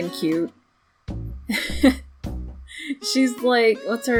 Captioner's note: laughs